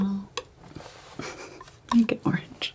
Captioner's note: laughs